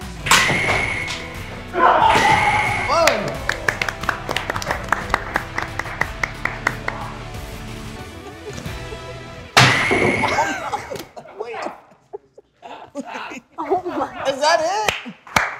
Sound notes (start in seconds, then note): 0.1 pie sandwich splattering; 3.0 applause; 9.6 bat hitting canvas; 11.8 all laughing